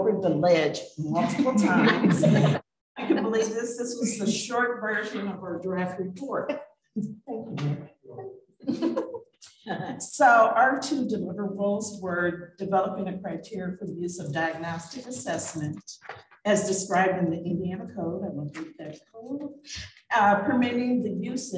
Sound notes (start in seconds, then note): 1.2 laughter